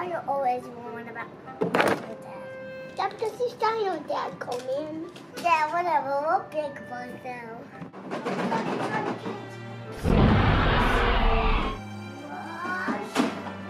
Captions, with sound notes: Why are you always worried about Dino dad? - That's because he's Dino dad Coleman. - Yeah whatever, where big boys now. (dinosaur roars)